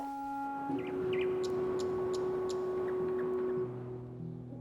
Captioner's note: bird tweeting